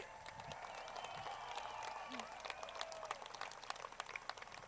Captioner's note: crowd cheers